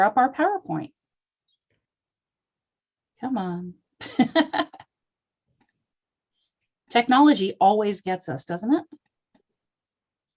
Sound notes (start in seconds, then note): 4.0 laughter